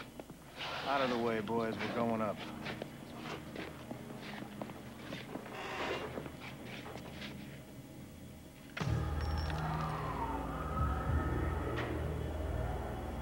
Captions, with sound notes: OUT OF THE WAY, BOYS. WE'RE GOING UP. ( metallic groaning ) ( bullets clinking on ground )